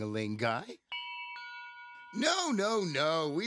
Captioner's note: bell rings